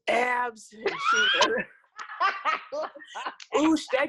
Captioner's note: laughs